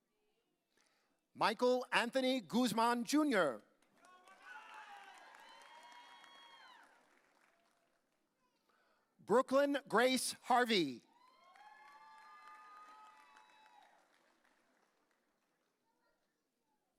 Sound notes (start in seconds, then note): 5.9 audience cheering; 11.2 audience cheering